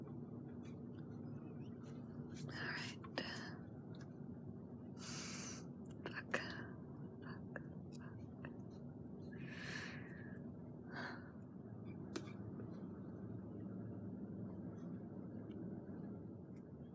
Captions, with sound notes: Alright. *inhales* Fuck, fuck, fuck... *inhales again, exhales*